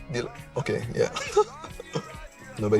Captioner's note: laughs